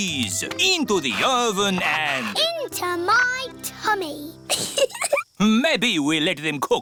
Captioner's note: giggles